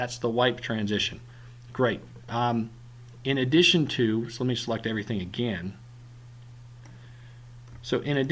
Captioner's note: clicking